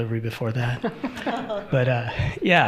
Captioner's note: all laughing